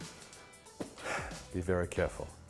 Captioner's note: sigh